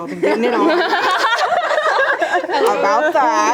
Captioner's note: teens laughing